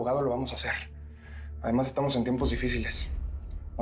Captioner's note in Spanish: none